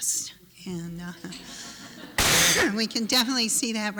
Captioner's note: laughter